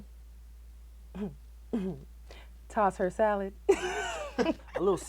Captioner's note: chuckles